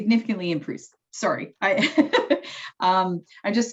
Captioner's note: chuckles